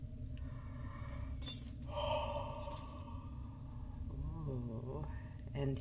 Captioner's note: yawn